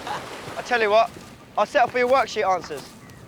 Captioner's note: boys laugh